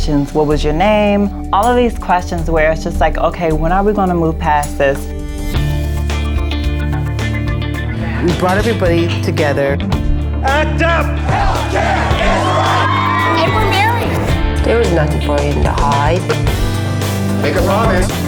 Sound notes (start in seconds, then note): 11.0 crowd